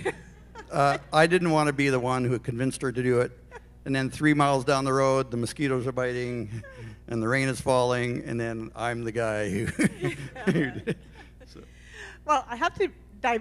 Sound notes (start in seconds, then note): 9.6 laughter